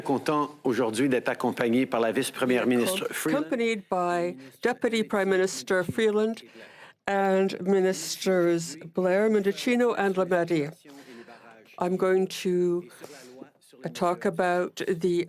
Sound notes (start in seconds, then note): 5.7 speaking French